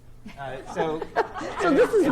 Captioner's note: laugh